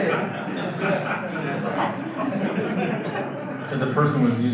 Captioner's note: audience laughter